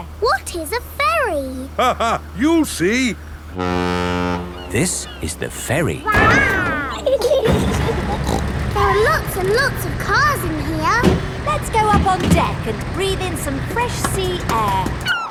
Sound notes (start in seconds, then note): 0.0 laughing; 3.2 ferry horn blows; 7.6 giggling; 8.2 snorts